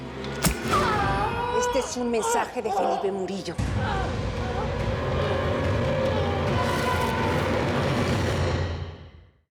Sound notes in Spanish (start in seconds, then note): 1.5 grito